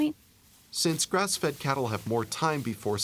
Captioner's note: voiceover